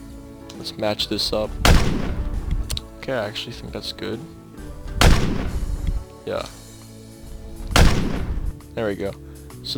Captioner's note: gunfire